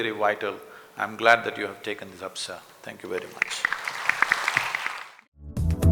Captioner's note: applause